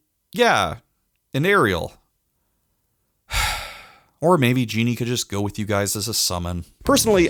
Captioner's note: sigh